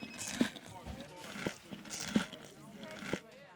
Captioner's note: he chewing